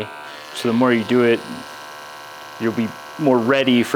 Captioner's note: razor buzzes